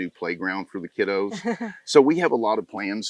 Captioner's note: laughs